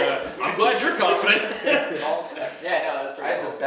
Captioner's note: laughing